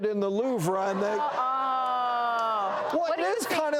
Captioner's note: audience gasping and laughing